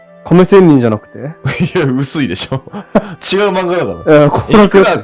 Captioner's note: laughs